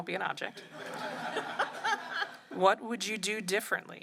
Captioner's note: laughter